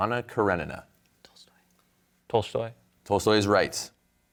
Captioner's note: whispering